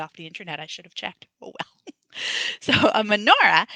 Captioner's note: laughs